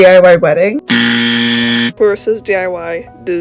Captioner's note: incorrect buzzer